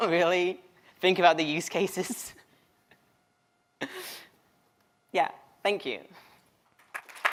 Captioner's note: applause